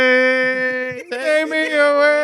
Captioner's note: non-english Speech